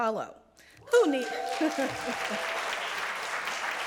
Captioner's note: applause and cheering